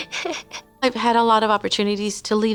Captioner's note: laughter